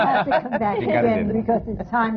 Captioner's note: laughter